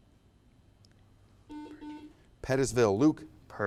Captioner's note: buzzer buzzes